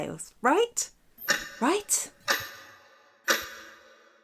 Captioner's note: clock ticking